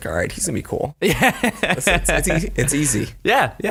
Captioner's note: laughter